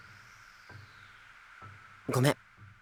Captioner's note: silence